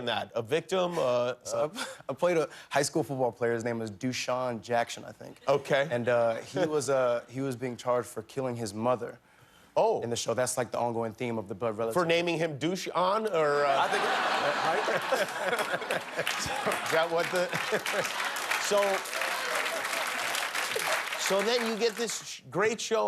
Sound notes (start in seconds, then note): 16.2 laughter